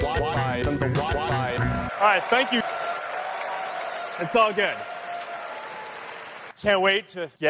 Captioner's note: applause